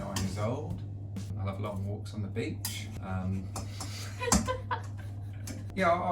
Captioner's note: laughs